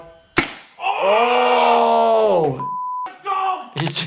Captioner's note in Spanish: disparos de pistolas de paintball; gritando